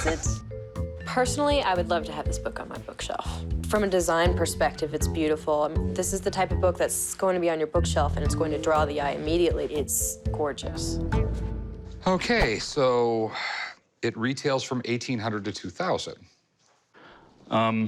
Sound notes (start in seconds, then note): 0.0 laughter; 12.8 sighs